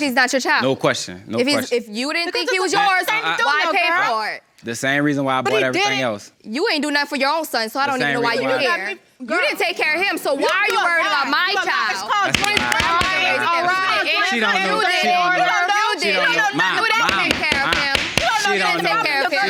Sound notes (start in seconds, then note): 11.1 all arguing; 13.6 arguing; 17.0 banging gavel